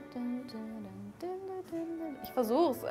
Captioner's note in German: Sie summt weiter